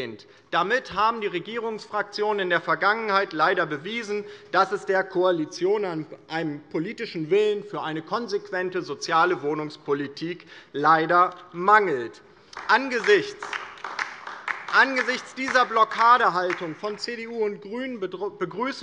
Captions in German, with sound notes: Damit haben die Regierungsfraktionen in der Vergangenheit leider bewiesen, dass es der Koalition an einem politischen Willen für eine konsequente soziale Wohnungspolitik leider mangelt. [Beifall DIE LINKE und vereinzelt SPD] Angesichts dieser Blockadehaltung von CDU und BÜNDNIS 90/DIE GRÜNEN begrüßen